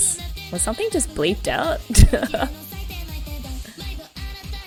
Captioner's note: laughs